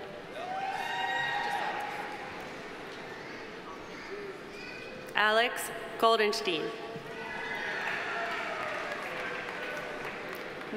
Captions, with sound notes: (audience applauding) (audience cheering) Alex Goldenshtein. (audience applauding) (audience cheering)